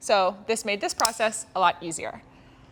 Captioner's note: clicking noise